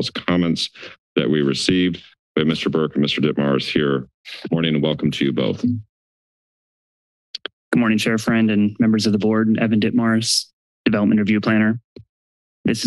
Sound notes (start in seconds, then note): 5.9 silence; 7.4 click